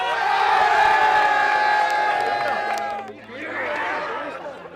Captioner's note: team cheering joyously